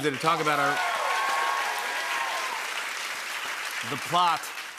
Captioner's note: cheers and applause